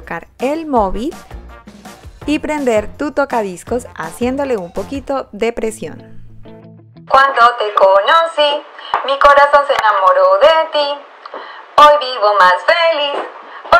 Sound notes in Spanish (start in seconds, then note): 7.1 Sonido Transistor